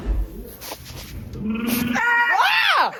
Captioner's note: trills and screams; screams